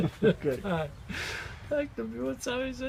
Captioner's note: laughter